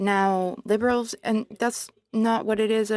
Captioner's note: speaking French